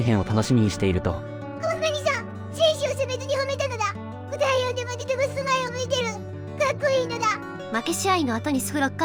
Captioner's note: tears